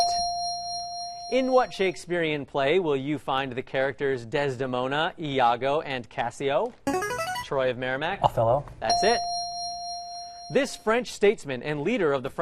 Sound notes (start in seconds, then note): 6.9 ringer; 8.9 ding